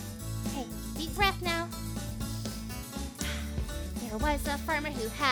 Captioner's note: breathing in and out